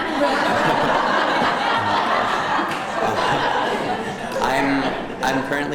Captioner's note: laughter